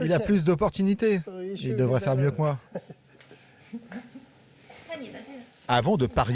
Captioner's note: chuckles softly